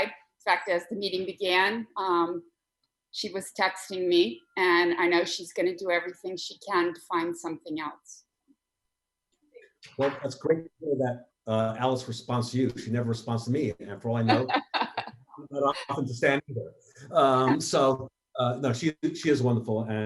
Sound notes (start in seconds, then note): 14.2 laughter